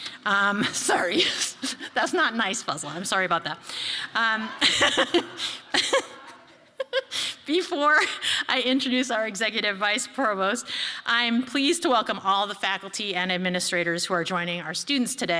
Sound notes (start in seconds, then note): 4.3 laughs